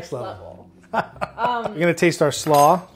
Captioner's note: laughs